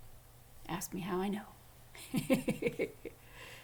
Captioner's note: laughing